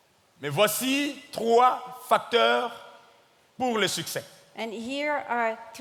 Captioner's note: speaking in French